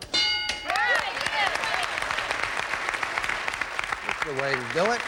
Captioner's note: audience applauding